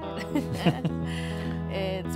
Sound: laughter

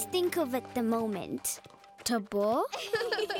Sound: laughing

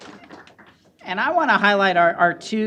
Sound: applause

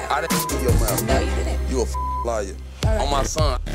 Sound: beep

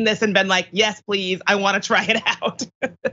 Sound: laugh

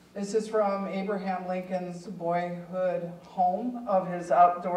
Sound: none

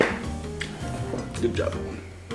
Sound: patting

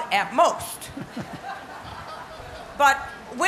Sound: laughter

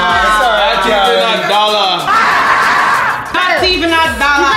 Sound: marmot screaming

